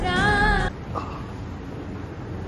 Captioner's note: dramatic music; patient grunts